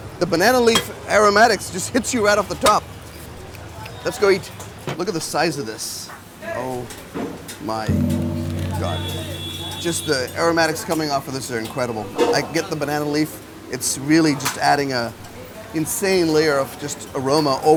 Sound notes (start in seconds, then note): 7.9 gong bonging